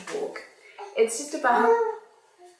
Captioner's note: coos